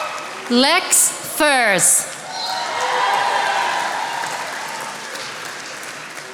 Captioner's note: attendees applauding